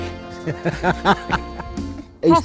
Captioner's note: both laughing